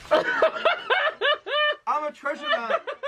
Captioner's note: laughs